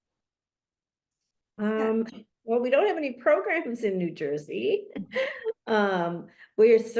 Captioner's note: chuckles